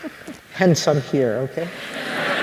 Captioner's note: laughter